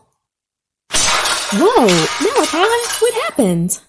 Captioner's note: metal crashing noises